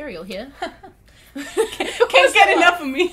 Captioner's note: laughs